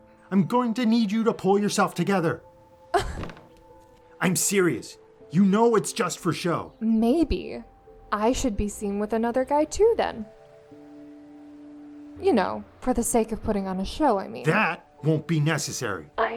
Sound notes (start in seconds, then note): 3.0 scoffs